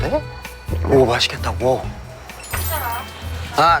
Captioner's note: mouth watering